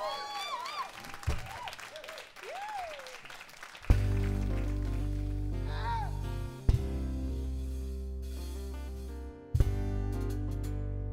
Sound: applause

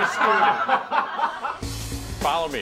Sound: group laughs

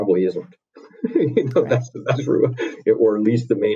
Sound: laughs

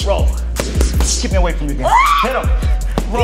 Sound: Debbie screams

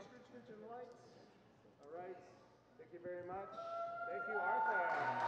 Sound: audience clapping

